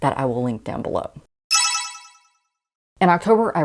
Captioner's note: sparkle Sound Effect